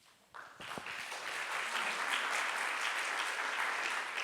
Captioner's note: crowd applauds